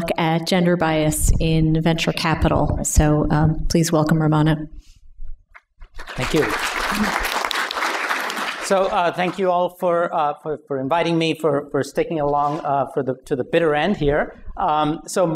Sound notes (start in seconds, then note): 5.9 applause